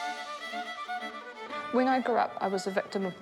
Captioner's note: all play discordantly; whoosh!